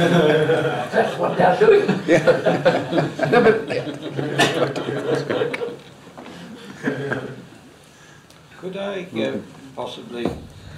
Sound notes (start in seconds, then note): 0.0 laughter; 3.8 laughs; 4.8 laughter